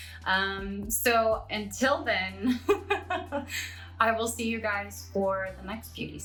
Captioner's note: giggles